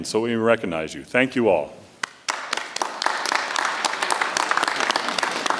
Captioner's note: audience applauds